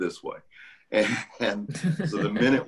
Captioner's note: laughter